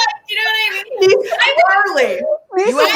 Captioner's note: all laughing